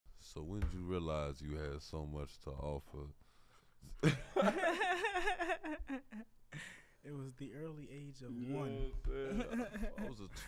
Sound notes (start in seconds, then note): 4.0 all laugh